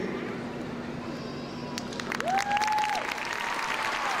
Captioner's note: crowd clapping